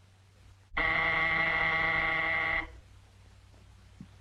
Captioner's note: buzzer rings